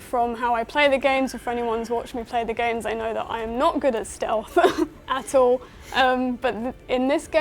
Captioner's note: laughs